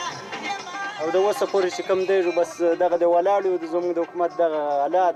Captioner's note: foreign language